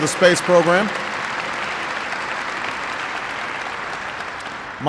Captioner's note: applause